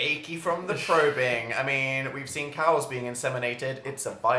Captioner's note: laughs